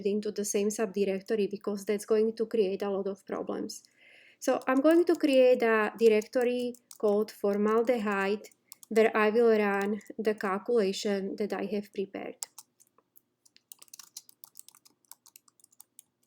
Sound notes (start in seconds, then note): 12.4 instructor typing